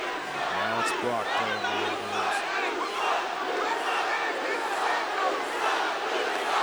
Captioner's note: crowd chanting